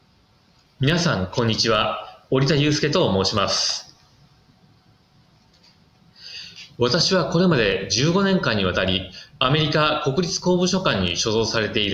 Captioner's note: speaking in Japanese